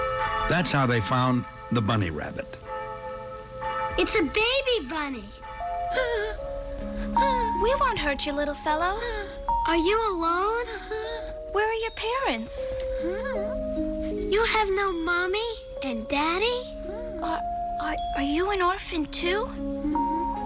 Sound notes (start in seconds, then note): 5.8 crying